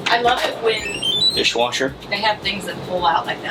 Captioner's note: dishwasher chimes